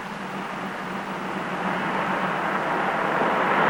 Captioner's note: engine rumbles